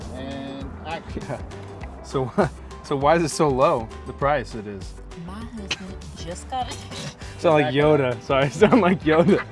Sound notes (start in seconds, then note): 6.2 laughing